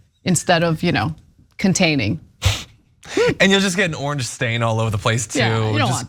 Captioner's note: laugh